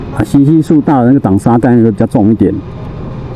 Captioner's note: engine brake